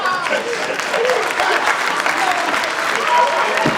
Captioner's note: audience applauds; crowd laughs